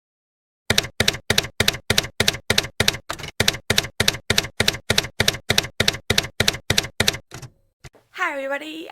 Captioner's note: typewriter keys clacking